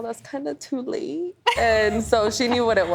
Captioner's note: laughs